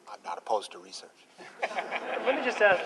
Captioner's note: laughter